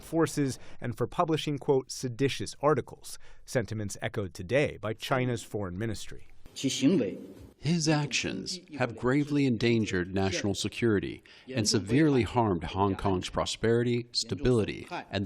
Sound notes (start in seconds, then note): 8.3 through translator